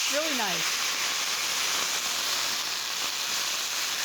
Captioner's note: sizzling